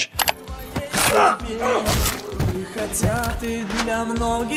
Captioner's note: grunting